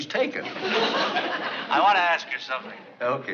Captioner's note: on phone